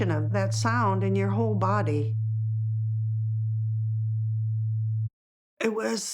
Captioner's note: frequency humming